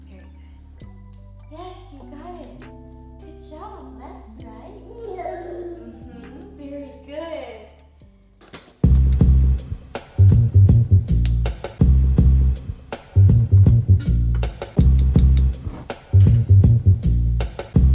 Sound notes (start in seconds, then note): 4.8 babbling; 8.9 upbeat music